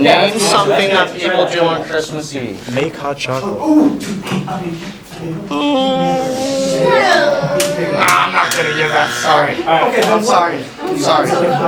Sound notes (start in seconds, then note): 8.0 wrong buzzer; 11.5 talking